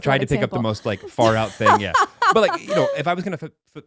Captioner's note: laughing